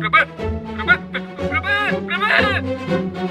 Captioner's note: screams of death